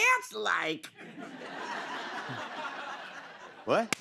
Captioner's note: laughter